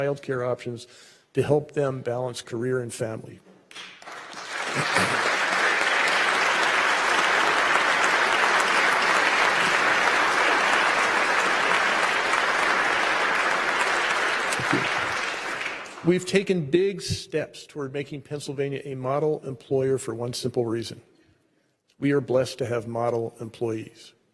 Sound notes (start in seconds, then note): 8.8 applause